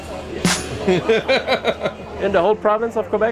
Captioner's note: laughing